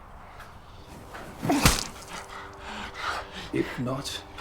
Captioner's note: smacking